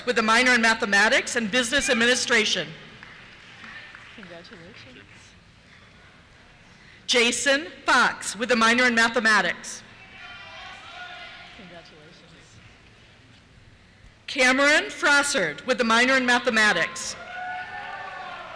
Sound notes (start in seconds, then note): 1.7 cheers; 4.8 voiceover; 10.0 cheers; 16.8 cheers